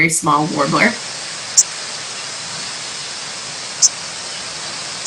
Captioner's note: bird chirping